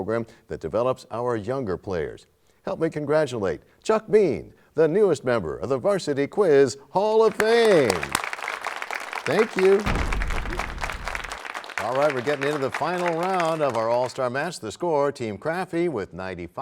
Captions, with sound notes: Junior Varsity Quiz program that develops our younger players. Help me congratulate Chuck Bean, the newest member of the Varsity Quiz Hall of Fame! [applause] -Thank you. [crashing sound] -All right, we're getting into the Final Round of our All-Star Match.